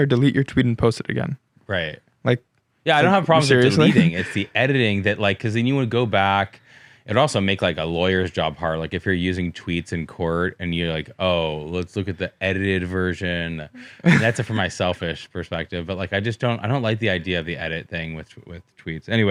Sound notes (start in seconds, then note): 13.7 laughs